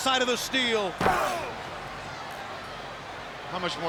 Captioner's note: foot thudding